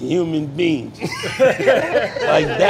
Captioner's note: everyone laughing